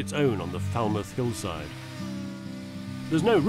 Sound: saw buzzes

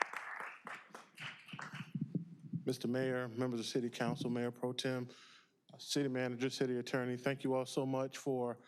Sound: applause

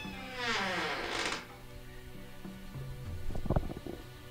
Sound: door creaking

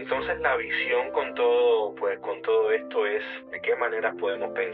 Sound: speaking Spanish

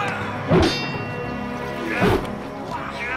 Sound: wooshing; metal clanging

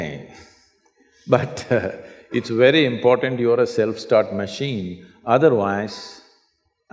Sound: laughs

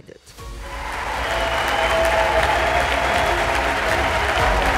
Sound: crowd cheering

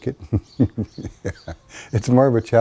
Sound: laughs

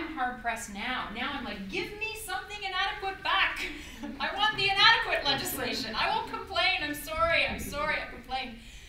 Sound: audience laughter

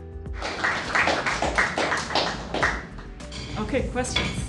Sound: applause

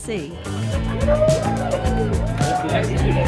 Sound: shouting and applause

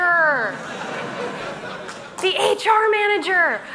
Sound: laughter

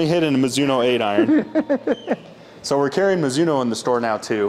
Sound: laughing

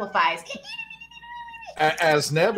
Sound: squeaking

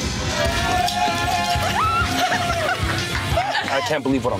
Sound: laughing

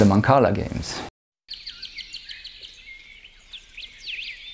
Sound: birds chirping

